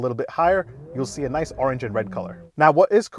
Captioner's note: engine revving